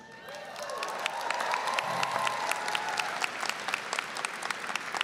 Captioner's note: applause, cheering; applause